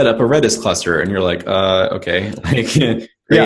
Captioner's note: laughs